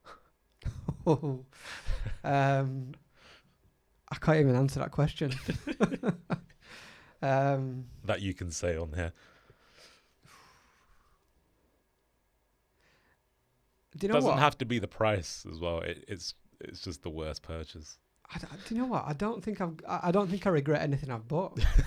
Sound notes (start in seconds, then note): 0.6 chuckles; 5.4 laughs loudly; 21.6 laughs